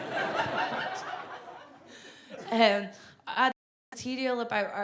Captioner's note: audience laughs